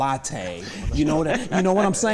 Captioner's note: laughter